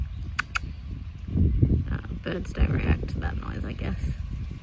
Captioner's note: makes kissie noise